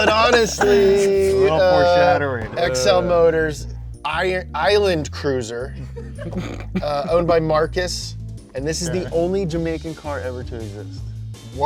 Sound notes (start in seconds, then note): 5.8 both laughing